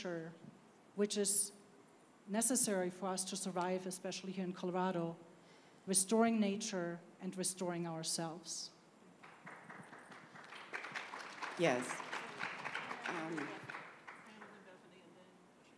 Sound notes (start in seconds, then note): 10.7 applause